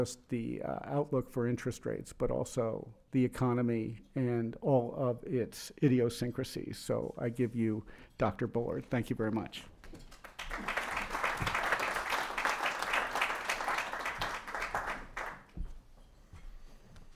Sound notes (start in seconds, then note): 12.5 applause